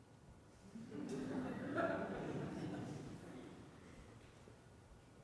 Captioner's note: audience laughs